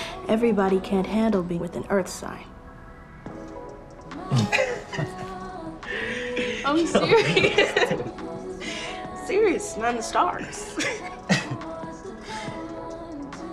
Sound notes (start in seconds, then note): 5.9 Kevin and Maisha laughing; 5.9 laughing; 10.6 Kevin and Maisha laughing; 13.3 warm rhythmic music